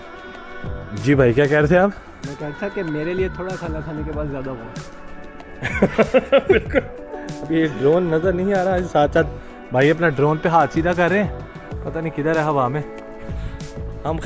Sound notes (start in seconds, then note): 5.6 laughing